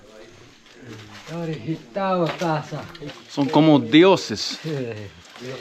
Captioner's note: speaking in foreign language